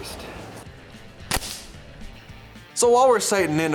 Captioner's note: shot fires